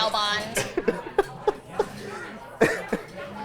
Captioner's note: both laughing